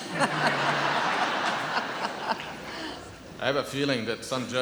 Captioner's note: audience laughs